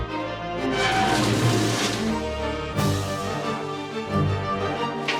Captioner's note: metal scrapping